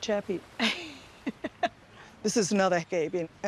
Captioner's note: laughs